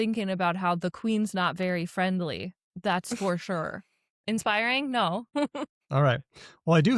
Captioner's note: chuckles